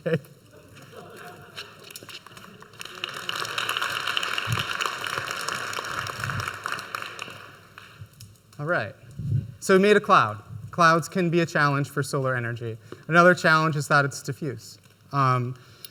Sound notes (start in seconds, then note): 1.0 audience applauds